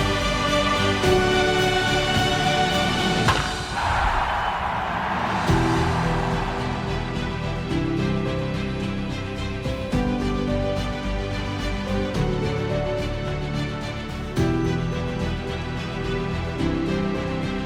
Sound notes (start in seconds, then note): 3.7 bat hits; 3.7 crowd cheers